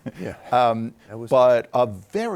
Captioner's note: chuckles